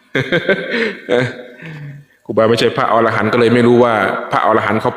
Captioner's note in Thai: เสียงหัวเราะ